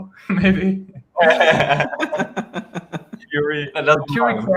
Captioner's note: all laughing